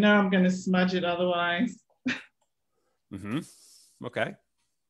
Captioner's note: chuckles